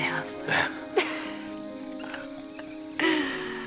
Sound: chuckling

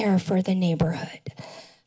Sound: none

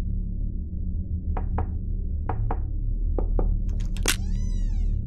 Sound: knocking

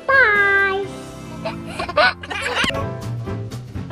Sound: laughing; cheery music

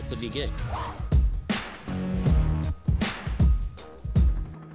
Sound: whoosh

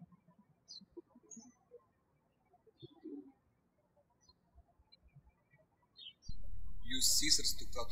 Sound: birds chirping

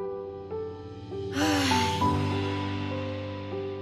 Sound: yawning

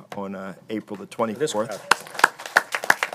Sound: applause

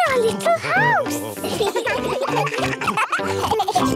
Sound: children giggling

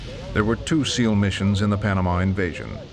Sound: voiceover

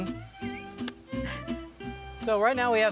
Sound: wheezing

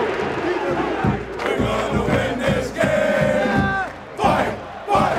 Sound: chanting

